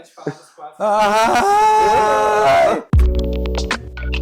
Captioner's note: screams